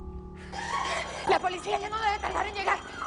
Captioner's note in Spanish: Gritos